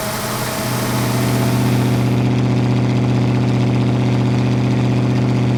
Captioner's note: muffler purring